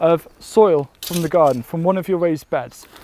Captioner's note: spade scraping